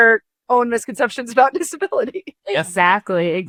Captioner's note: chuckles